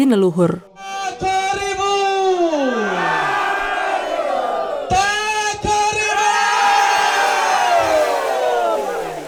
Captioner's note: chanting